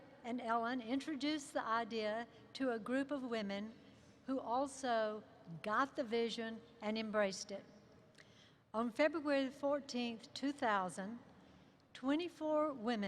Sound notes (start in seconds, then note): none